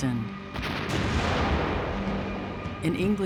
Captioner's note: exploding